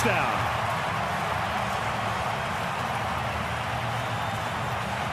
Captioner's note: crowd cheering